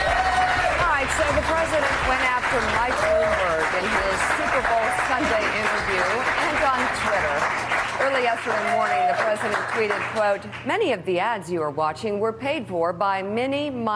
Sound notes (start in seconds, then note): 0.8 applause